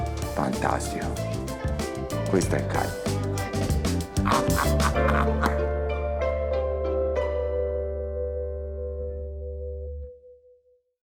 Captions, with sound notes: Fantastic. This is meat. (laughs)